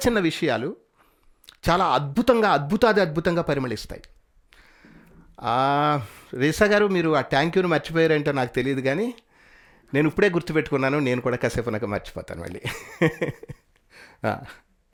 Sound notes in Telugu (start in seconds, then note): 12.6 నవ్వు